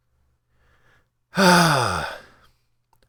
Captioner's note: sigh